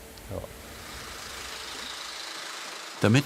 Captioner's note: rattling